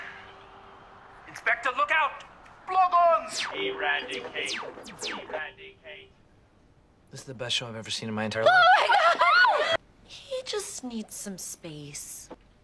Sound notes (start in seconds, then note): 8.4 ANNIE and BRITTA cheer in excitement